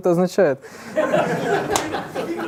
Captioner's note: laughter in the audience